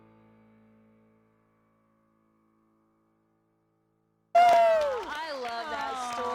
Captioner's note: applause